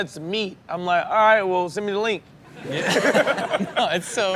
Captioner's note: laughs